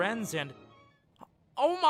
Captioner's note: gasps